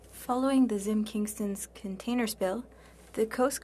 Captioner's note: speaking French